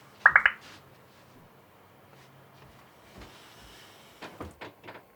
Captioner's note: notification chimes